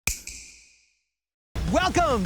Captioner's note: snap